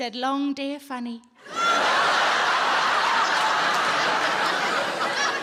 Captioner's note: audience laughing